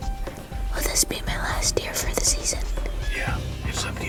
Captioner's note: whispering